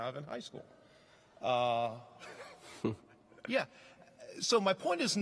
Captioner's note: laughing